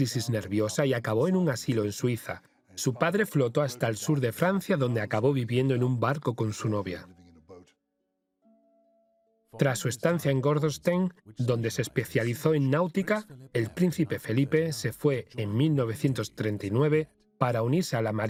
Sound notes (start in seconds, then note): 8.5 voiceover